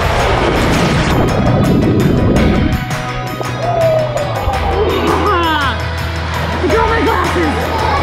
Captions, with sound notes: (water bubbling) Ha ha, I got my glasses.